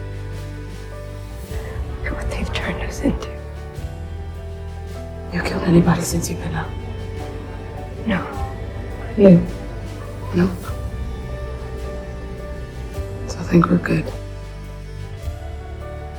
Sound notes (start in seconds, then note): 5.4 voiceover